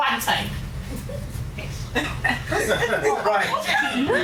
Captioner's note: laughter